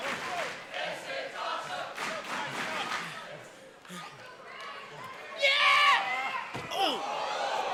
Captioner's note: fans chanting